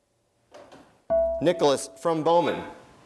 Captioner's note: dinging